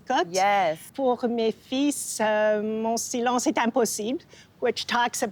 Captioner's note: speaking French